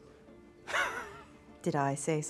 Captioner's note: laughs